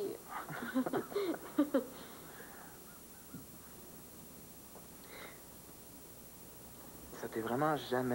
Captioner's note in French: Rires